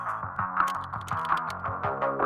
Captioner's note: loud clicking; upbeat electronic music